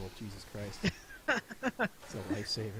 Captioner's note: laughing